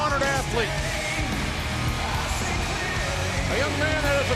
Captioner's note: audience applauds and cheers